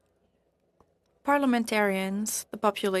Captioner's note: speaking French